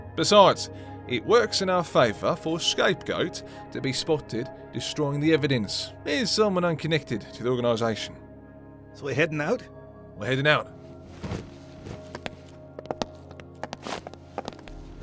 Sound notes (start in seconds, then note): 11.0 footsteps